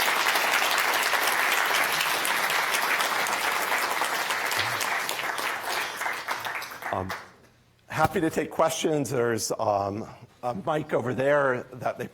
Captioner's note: applause